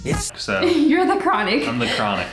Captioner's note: laughing